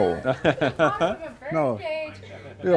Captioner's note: laughter